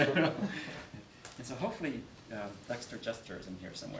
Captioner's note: laughing